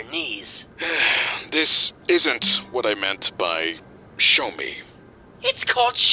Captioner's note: sigh